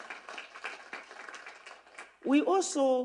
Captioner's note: applause